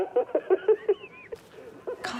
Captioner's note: laughing